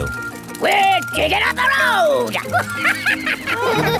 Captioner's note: chuckles